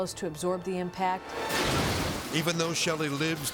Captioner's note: car exploding